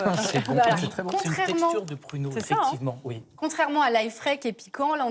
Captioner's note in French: rires